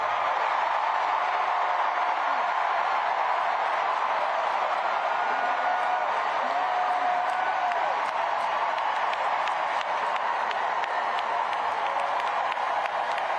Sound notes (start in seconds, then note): 0.0 cheers and applause